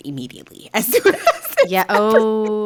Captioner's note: laughing